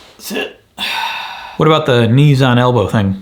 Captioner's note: satisfied sighing